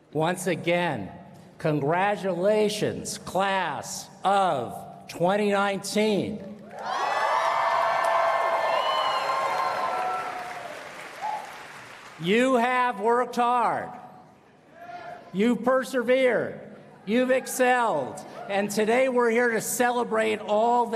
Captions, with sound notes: Once again, congratulations Class of 2019. [ Applause and Cheering ] You have worked hard. You persevered. You've excelled and today we're here to celebrate all